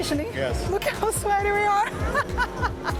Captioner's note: laughs